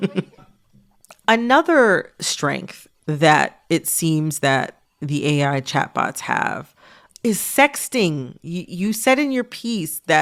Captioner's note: laughter